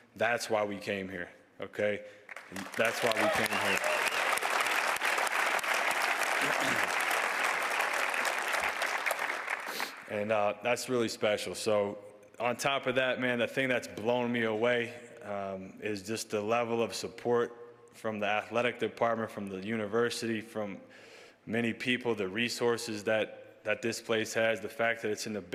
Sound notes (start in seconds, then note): 7.5 cheers and applause